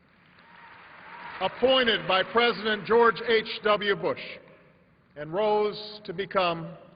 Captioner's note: applause